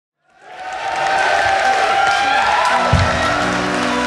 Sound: audience cheers and applauds

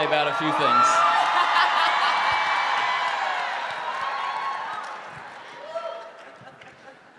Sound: audience cheering

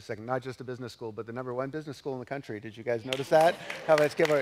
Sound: applause

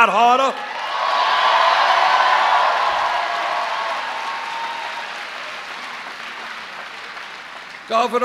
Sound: cheers

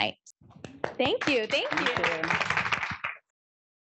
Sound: applause

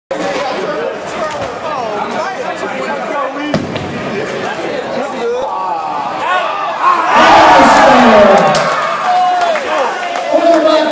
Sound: chatter and cheering

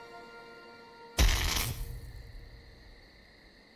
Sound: brzzzzt

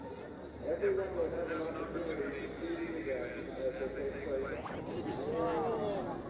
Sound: voice over loudspeaker; ambient noise and chatter

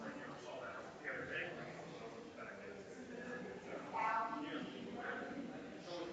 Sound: people chattering distantly continues

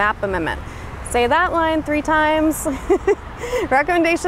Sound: laughs

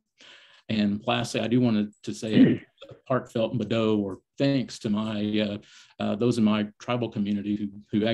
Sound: native American language

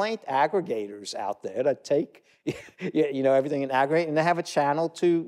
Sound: chuckle

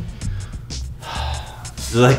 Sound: sigh

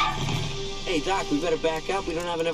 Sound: tires screeching

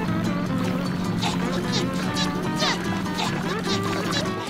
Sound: SpongeBob panting

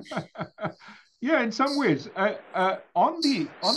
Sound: laugh

